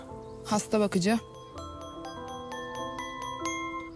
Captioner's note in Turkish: Telefon Çalıyor